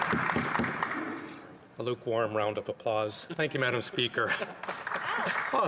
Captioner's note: some Applause